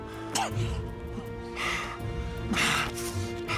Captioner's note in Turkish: Yınal nefes sesi